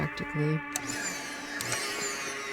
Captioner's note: vacuum whirring